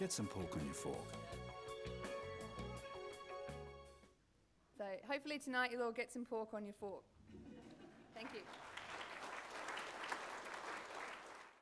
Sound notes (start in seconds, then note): 7.2 laughter